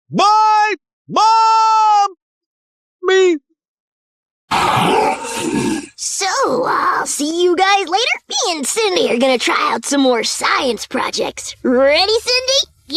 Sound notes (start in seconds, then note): 4.5 Goddard roaring